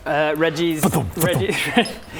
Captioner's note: fwthump fwthump